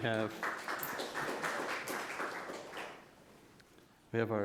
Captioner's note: audience applause